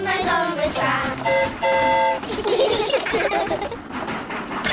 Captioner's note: train horn toots; all giggle